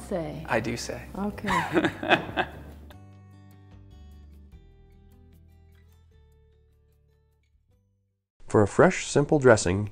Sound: laughter

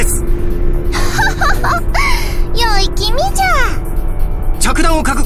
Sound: laugh

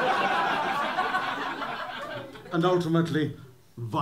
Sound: laughter

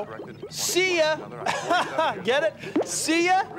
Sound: laughs

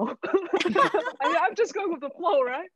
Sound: all laughing

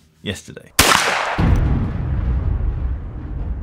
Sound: gun banging

